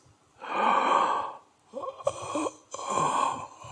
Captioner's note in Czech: zvuk zívání